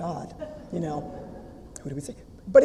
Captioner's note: audience laughter